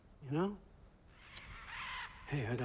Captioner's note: caws